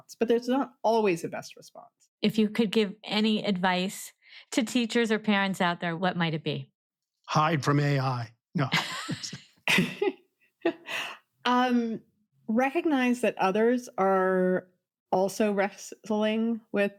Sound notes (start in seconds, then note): 8.7 laughs